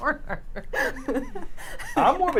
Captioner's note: laughing